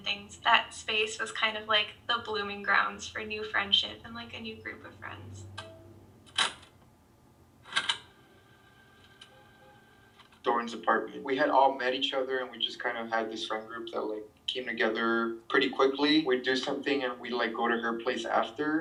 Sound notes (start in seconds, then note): 4.6 sound of tape ending; 7.7 sound of tape starting